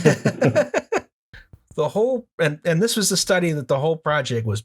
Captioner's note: laughter